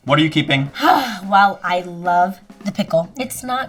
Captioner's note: exhales sharply